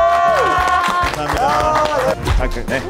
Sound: A round of applause

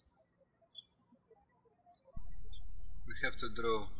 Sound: birds chirping

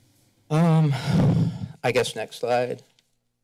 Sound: sighs

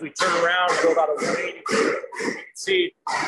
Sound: machine whirring

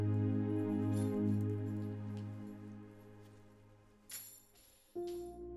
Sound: chains rattling

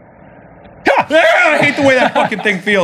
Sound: screams

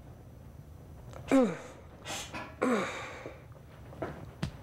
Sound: grunting

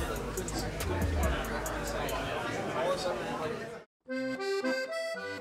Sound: restaurant chatter; polka music

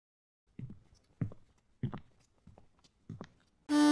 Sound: footsteps

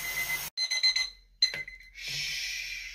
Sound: beeping gets muffled

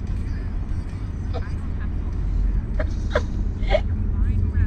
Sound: Irene laughs

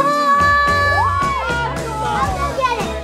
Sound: all cheer

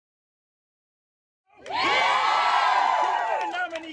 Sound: cheers

